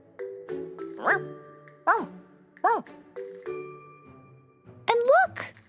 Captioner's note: barking